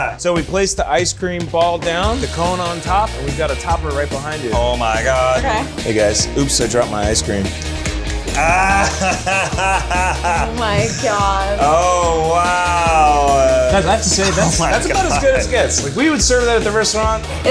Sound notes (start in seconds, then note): 8.4 laughing and clapping